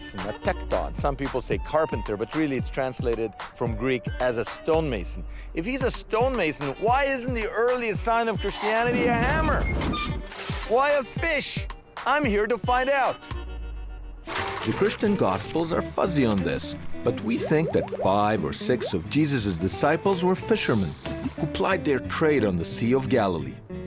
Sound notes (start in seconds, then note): 10.0 metal squeaking; 13.8 paper shuffling